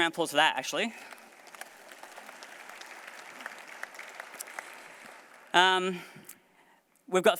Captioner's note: applause